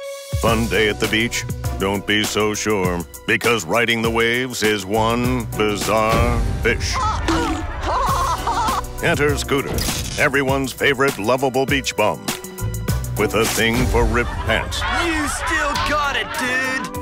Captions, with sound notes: Fun day at the beach? Don't be so sure, because riding the waves is one bizarre fish. [laughing] Enter Scooter, everyone's favorite loveable beach bum. With a thing for ripped pants. You still got it, dude!